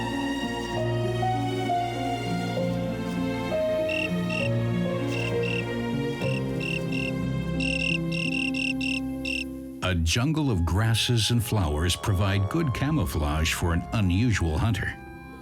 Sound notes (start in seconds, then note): 3.8 insect chirping